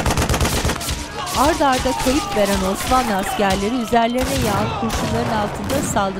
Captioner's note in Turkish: İnleme sesleri; Müzik - Gerilim; Silah sesleri